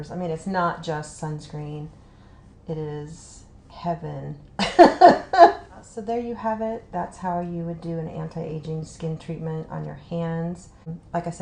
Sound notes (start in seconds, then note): 4.6 laughs